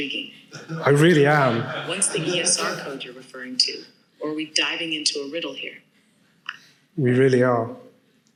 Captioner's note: audience laughs